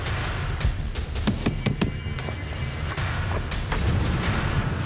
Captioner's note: thudding